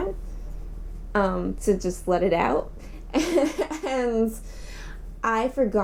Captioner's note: laughing